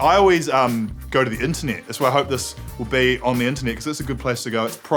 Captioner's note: none